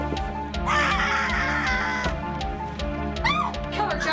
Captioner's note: child screams